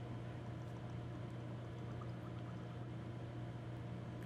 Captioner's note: glugging noises